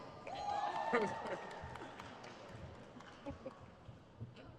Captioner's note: crowd cheers